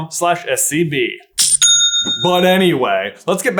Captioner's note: cha-ching!